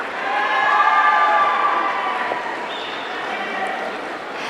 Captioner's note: audience cheering